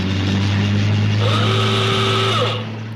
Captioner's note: horn toots